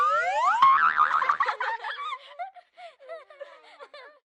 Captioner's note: boing, kids laughing